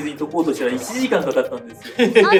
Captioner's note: laughs